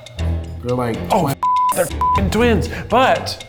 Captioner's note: beep